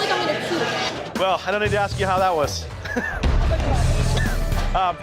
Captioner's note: chuckles